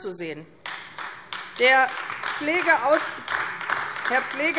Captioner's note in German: Beifall AfD